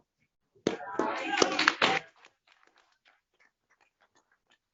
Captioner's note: applause